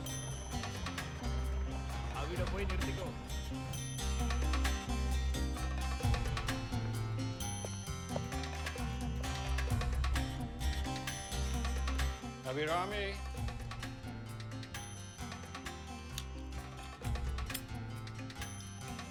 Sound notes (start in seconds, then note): 1.9 speaking foreign language